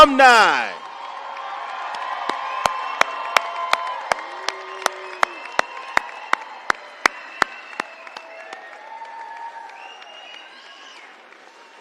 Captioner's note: applause